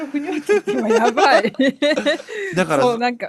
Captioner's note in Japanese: 笑い